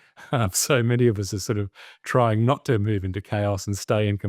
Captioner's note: chuckles